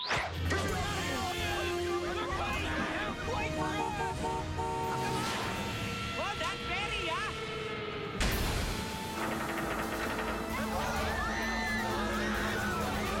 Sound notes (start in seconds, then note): 4.2 horn honking; 10.8 ferry creaking